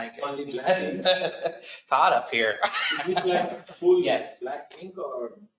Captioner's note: laughs